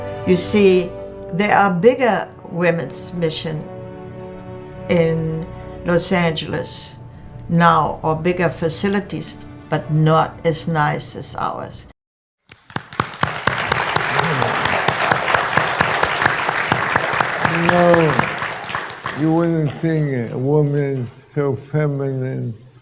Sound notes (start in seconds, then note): 12.5 applause